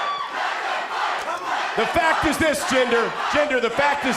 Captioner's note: crowd cheering